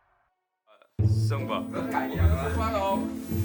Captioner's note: chatting sound